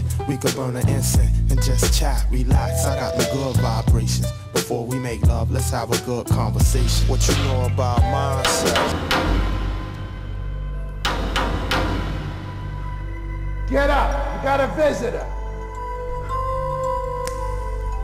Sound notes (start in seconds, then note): 8.6 object thudding; 8.6 tense music; 15.4 gentle music